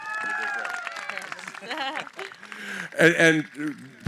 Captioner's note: cheering & Applause